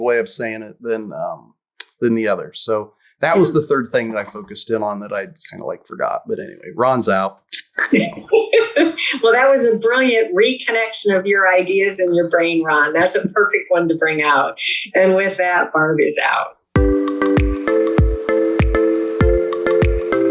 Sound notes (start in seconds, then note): 7.5 laughs